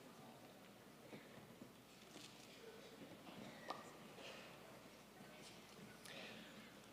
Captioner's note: none